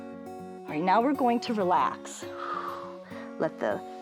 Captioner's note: exhales